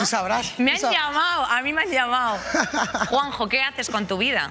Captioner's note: laughs